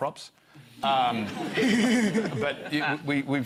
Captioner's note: laughter